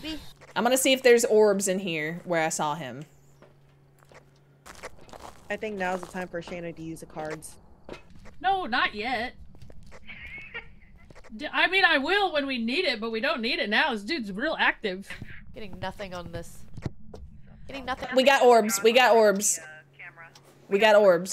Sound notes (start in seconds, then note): 10.0 laugh